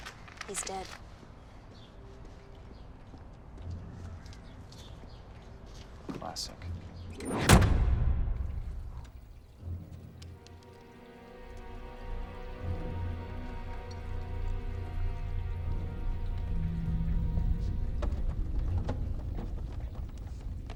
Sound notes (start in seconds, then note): 7.4 trunk slams; 10.6 dramatic music